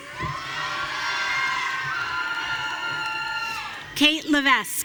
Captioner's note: audience cheering